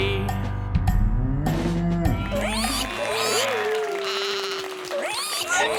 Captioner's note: animal applause